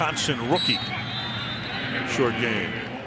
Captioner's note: whistle